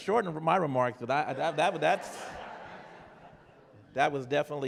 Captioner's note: laughter